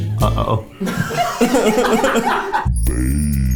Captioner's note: all laughing